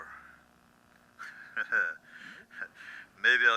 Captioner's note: laughs